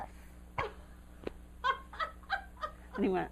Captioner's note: laughter